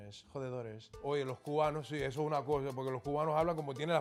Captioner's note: speaking Spanish